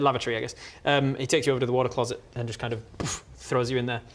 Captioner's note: boof